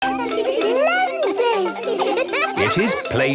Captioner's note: laughter